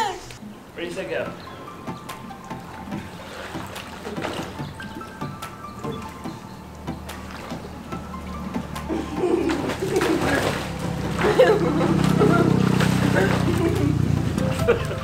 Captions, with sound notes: Ready, set, go. (uplifting music) (laughter)